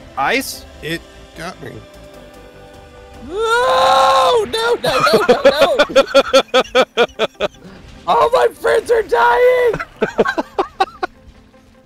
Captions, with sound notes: Ice? It... got me... *screaming* No-No-No-No-No *laughter* All my friends are dying! *laughter*